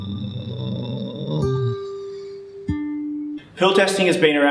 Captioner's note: Sloth groans slothfully